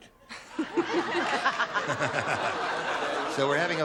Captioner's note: laughter